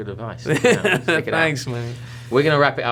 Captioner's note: laughter